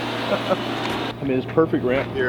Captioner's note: chuckling